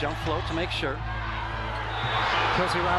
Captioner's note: crowd cheering